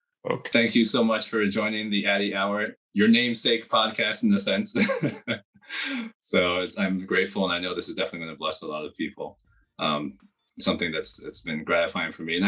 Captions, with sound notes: So thank you so much for joining the Addy Hour, your namesake podcast in the sense. (laughs) So I'm grateful and I know this is definitely gonna bless a lot of people, something that's been gratifying for me.